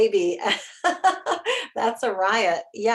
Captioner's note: chuckles